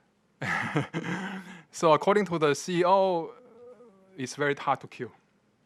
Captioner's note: laughing